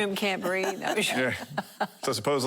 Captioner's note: laughing